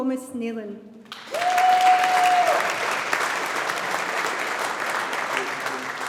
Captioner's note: audience applauding